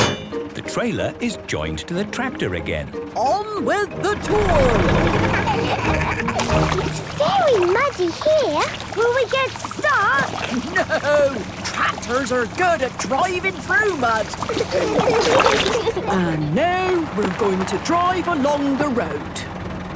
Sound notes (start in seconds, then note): 5.4 laughing; 13.8 giggling